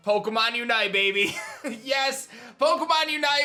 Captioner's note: giggles